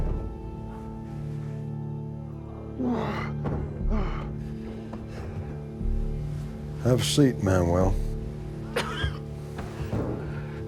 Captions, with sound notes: [GROANS] Have a seat, Manuel.